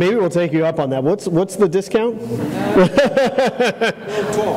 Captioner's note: laughter